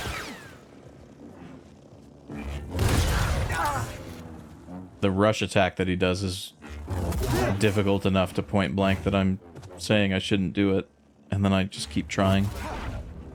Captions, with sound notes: (silence) The rush attack that he does is difficult enough to point blank that I'm saying I shouldn't do it and then I just keep trying.